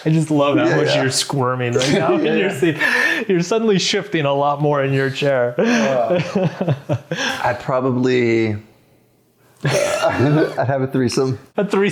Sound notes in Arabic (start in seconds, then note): 6.9 يضحك